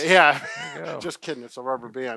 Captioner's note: chuckles